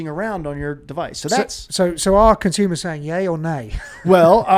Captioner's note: chuckles